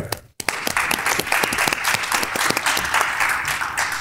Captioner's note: crowd claps